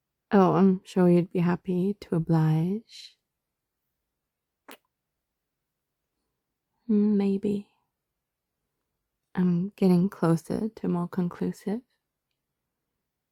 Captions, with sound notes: oh, I'm sure you'd be happy to oblige.. *kiss* hmm, maybe.. I'm getting closer to more conclusive